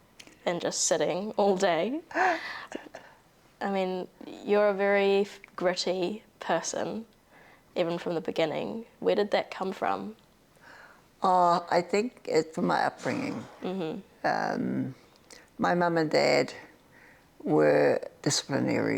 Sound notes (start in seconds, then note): 1.8 chuckles